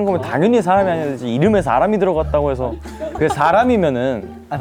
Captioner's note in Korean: 궁시렁